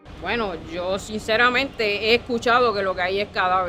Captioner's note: speaking spanish